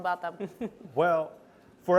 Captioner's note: laughs